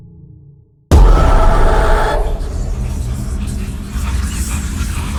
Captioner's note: ghostly whispering